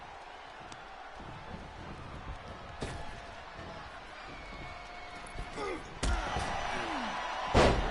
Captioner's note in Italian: Applauso; Applauso